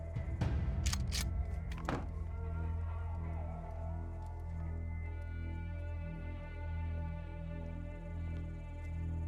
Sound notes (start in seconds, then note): 0.8 shotgun slide clicking